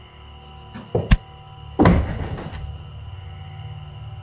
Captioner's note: whip lashing